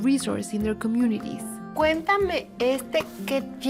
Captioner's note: both speaking Spanish